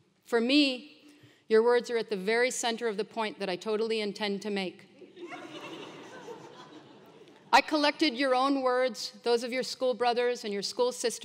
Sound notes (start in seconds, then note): 5.0 laugh